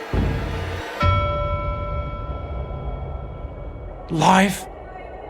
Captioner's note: bell chiming